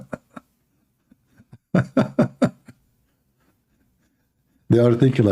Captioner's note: Ketawa